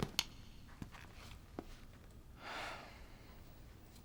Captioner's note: sighs